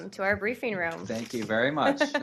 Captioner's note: laughter